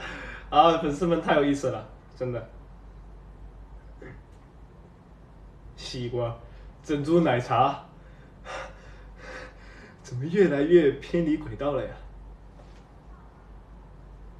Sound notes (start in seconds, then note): 7.9 heavy breathing